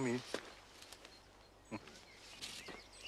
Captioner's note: Terkekeh